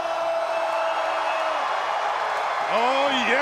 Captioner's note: crowd cheering